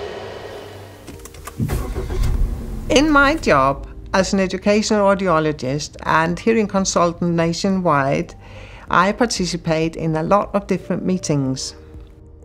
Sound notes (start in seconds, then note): 1.6 engine starts